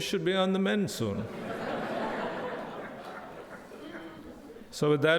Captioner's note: audience laughs